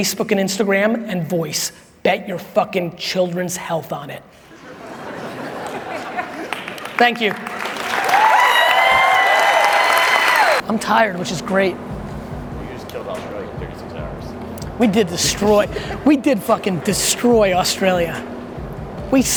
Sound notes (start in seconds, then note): 4.4 laughing; 8.2 applause